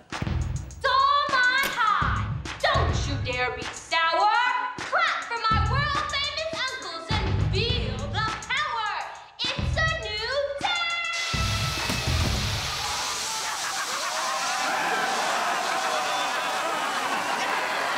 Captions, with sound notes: Dolmont High, don't you dare be sour! Clap for my world famous uncles and feel the power! It's a new day! [laughing] [cheering]